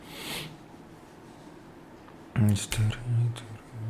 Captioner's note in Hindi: नाक से की जाने वाली आवाज़